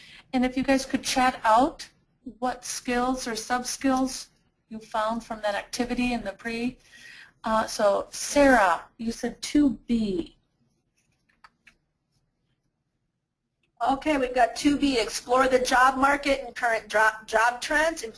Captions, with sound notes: - [Voiceover] And if you guys could chat out what Skills or Sub Skills you found from that activity in the Pre. So Sarah, you said 2b. - [Voiceover] Okay, we've got 2b, explore the job market and current job trends,